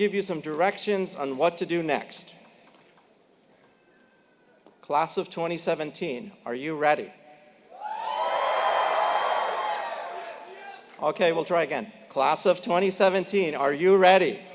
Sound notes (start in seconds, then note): 8.8 applause